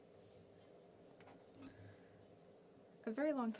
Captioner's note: speaking French